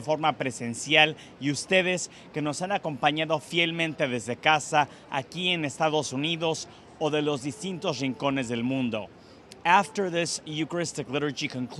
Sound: speaking spanish

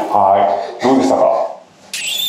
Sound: laughs

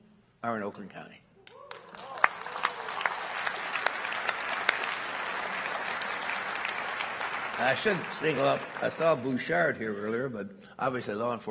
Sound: applause

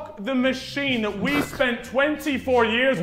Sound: Vikram snickering

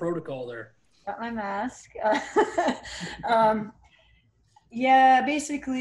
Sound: chuckles

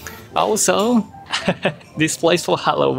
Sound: chuckles

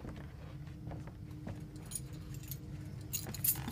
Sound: keys jangling

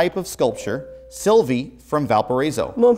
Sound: beeping

